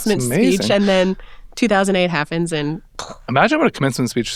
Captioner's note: vocalizing explosion